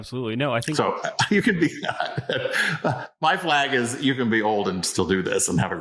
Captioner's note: laughs